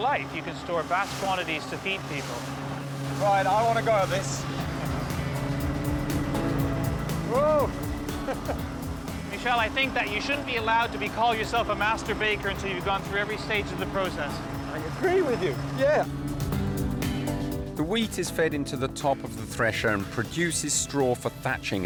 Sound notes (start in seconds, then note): 4.6 thresher whirring; 4.6 upbeat music; 8.1 chuckles